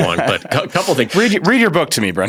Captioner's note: laughs